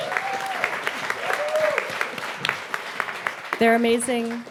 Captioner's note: audience applauding and whooping